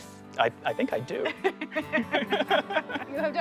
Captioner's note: laughter